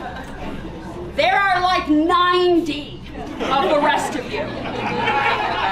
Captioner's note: laughter